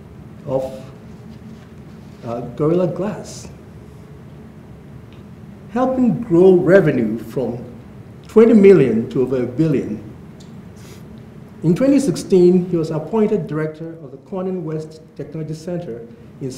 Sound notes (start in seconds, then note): none